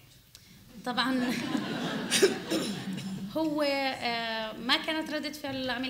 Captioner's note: speaking arabic